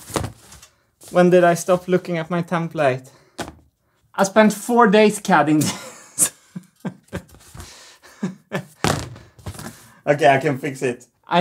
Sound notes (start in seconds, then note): 5.6 chuckles